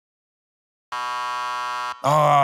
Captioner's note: buzzer